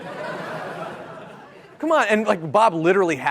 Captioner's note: laughter